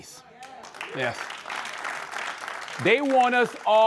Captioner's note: applause